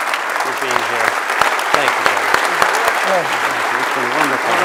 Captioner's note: audience applauds